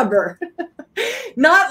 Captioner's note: laughing